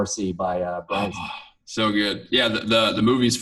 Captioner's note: gasps